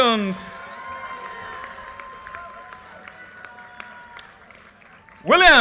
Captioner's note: audience cheers and applause